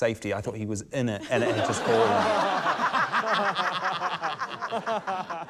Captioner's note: laughter